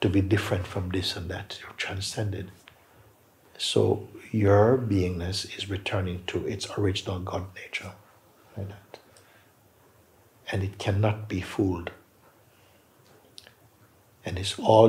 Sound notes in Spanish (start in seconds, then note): none